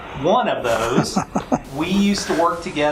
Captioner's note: laughs